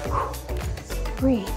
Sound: exhales

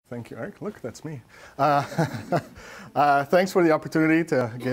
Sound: laughs

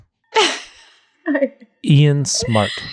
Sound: laughs

